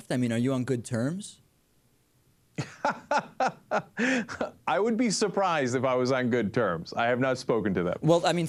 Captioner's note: laughs